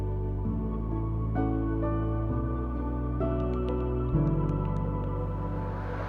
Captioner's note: typing